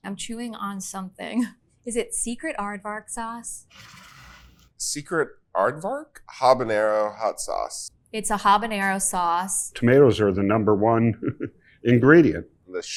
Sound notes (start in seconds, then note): 3.6 bottle scrapes